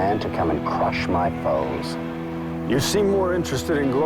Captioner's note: none